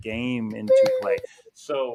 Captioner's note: hand clapping